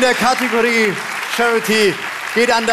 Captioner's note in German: Applaus